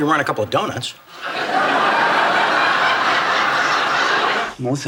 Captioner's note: audience laughs